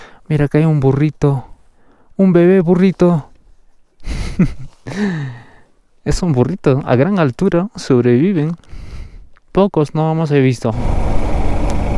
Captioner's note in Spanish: risas